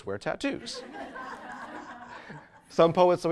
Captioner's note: audience laughs